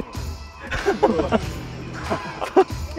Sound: haha

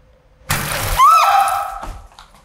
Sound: exploding; screaming

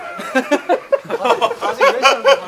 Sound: laughing

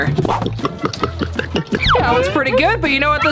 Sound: glugging

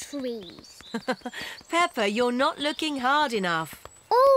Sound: laughs

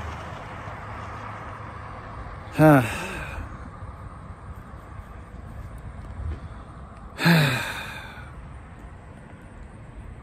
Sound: Ava sighs

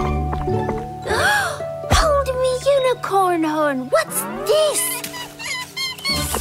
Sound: gasping

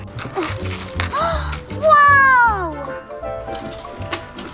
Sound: grunts

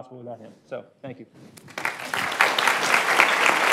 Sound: applause

